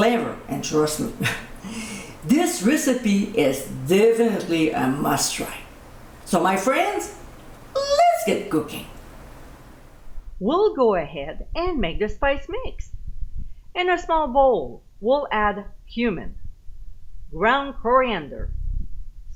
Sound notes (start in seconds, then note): 1.2 giggling